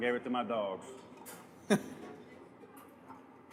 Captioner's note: laughs